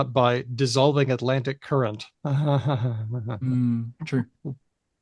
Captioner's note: laughs unenthusiastically